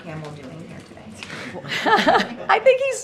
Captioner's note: laughter